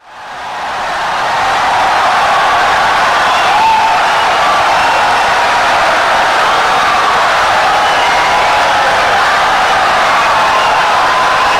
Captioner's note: wild applause and cheering for 17 seconds